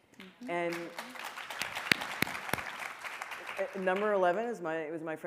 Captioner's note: audience applauding